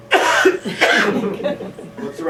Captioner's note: laughter